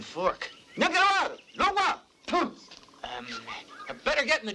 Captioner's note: tonga spoken audio